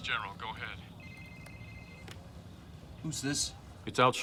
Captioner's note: phone ringing